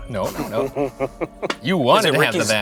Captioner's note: laughing